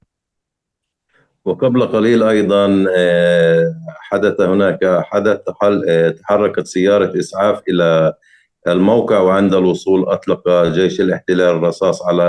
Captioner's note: speaking arabic